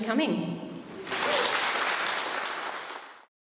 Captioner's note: applause